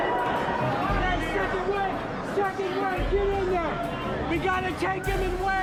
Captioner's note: crowd cheering, yelling